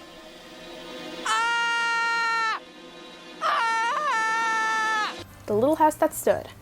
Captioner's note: screams in british